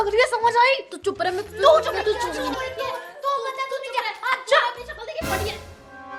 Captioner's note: arguing